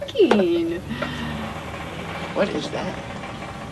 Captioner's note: engine rumbling